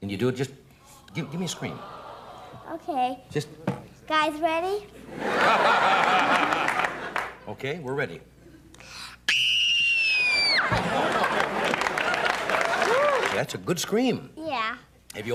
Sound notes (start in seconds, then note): 5.0 laughter; 9.2 screams; 10.6 laughter